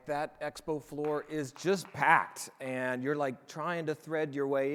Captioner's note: audience applauding